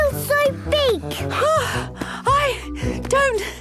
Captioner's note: panting